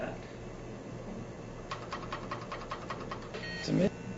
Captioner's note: keys clacking